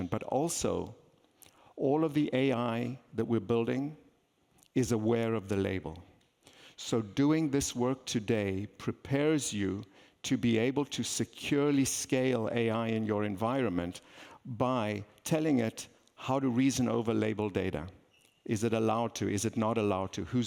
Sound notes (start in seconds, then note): none